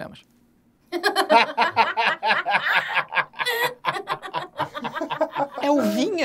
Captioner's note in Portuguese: risadas